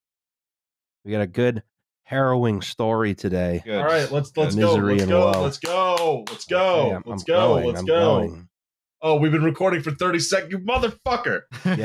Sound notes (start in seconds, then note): 4.4 claps rhythmically; 11.5 laughs